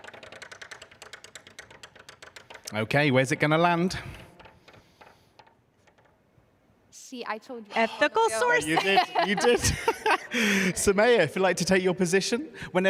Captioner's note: laughs